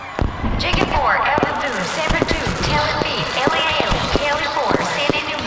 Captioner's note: fast paced fireworks start being let off